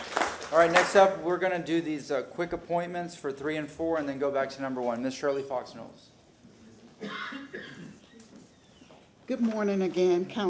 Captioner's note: applause